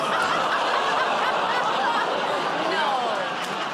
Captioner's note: laughter